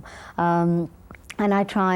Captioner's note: none